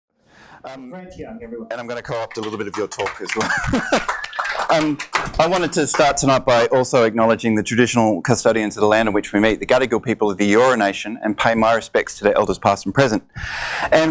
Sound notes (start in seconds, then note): 0.7 voiceover; 3.8 audience applauds